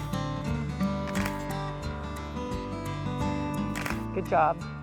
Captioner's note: camera clicking; camera clicks; camera clicking